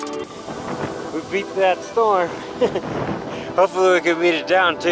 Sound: laughs

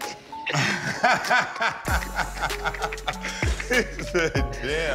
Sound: loud laughter

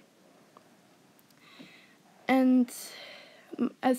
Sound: exhales and Inhales

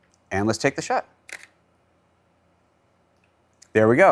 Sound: camera shutters

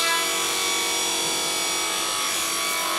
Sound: whirring

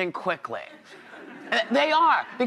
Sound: audience laughs

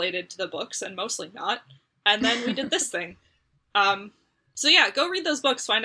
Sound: laughs

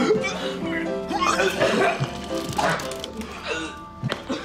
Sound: vomits

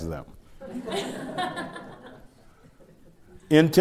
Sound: laughter

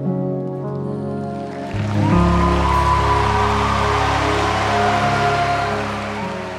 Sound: audience applauding and cheering

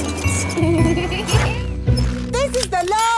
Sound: laughing

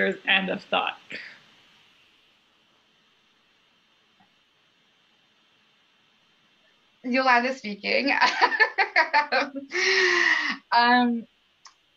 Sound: laughter

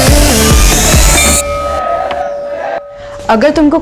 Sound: bell rings

